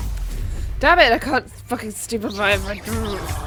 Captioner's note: angry grumbles